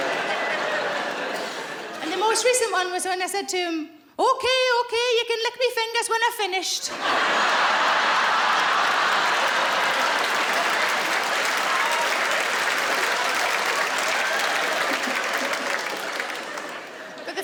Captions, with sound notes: And the most recent one was when I said to him, "Okay, okay, you can lick me fingers when I've finished."[laughing]